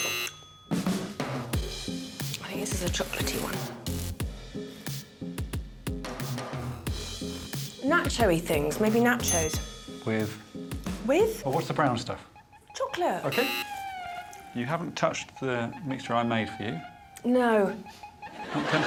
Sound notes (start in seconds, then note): 2.6 buzzing; 9.2 dinging; 15.2 buzzing